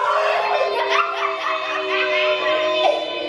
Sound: laughing

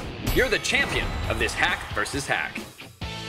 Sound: bell dings

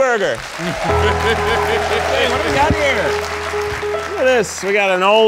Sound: audience applauding

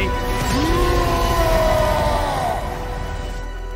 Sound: roaring

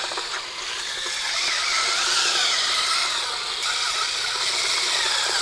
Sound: paddle mixer swirling sound

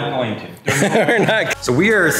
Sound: cameraman laughing

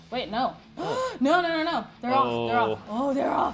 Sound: gasp

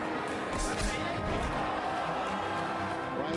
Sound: crowd

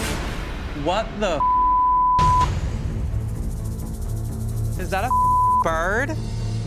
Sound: beep

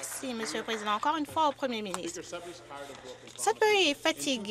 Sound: some Applause

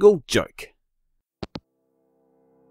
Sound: hangup

